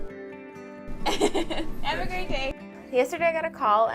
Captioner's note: laughs